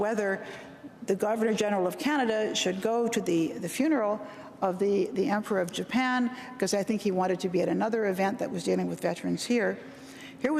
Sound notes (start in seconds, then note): none